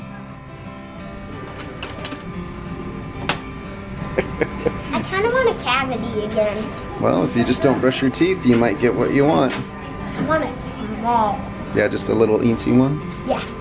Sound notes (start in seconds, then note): 0.2 gentle guitar music; 4.0 laughs